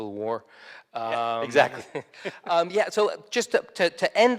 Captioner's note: laughs